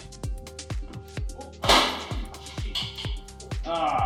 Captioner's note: clank